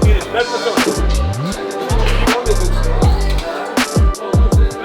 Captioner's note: crowd chattering